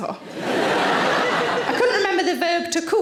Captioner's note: audience laughing